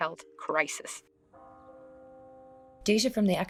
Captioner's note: bell chiming